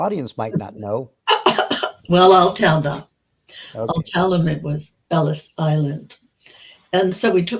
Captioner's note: laughing